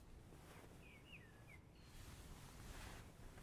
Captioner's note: distant birds chirping